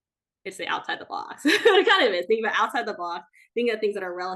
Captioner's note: laughs